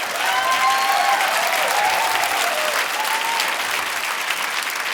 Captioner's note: audience applauding